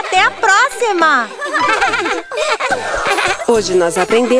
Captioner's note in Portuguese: Risos